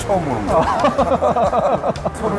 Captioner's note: both laughing